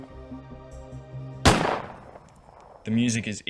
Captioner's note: gunshot